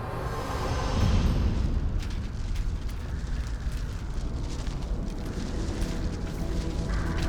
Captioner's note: wind whistling; debris rustling